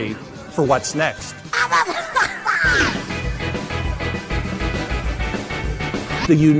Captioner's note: Rabbid noises